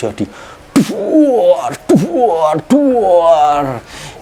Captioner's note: making an explosive sound